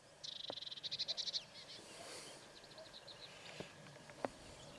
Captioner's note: birds calling